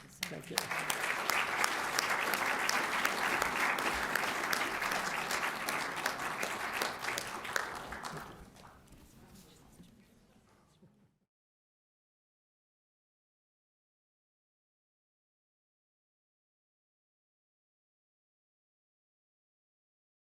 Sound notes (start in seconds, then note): 0.0 applause